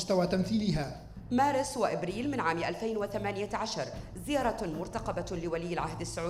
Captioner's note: female speaking in foreign language